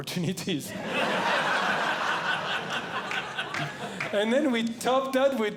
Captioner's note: audience Laughing